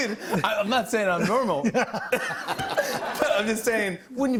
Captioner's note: laughter